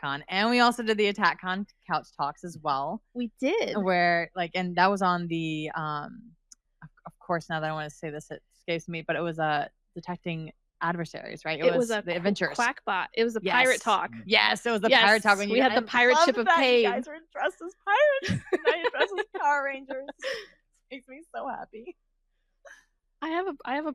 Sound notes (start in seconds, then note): 18.2 laughs; 22.9 laughs